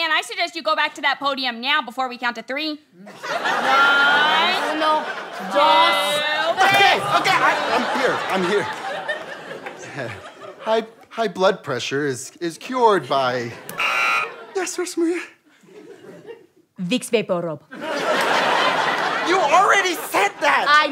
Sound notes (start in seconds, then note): 13.7 buzzer; 14.9 terrified; 17.7 audience laughter